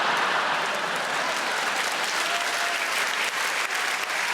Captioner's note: audience laughing; audience applauding